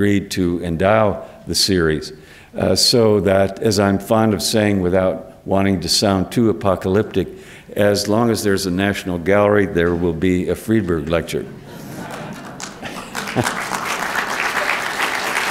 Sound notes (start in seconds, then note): 11.6 laughter